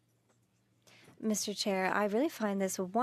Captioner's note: speaking French